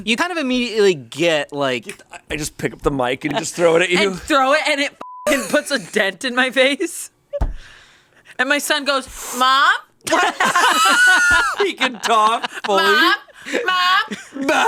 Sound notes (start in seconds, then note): 5.0 beep; 10.1 everyone laughs